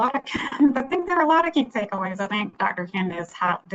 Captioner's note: laughs